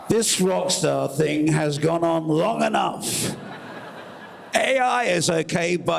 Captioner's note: cheers